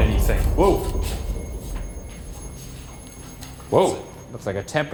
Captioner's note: device beeping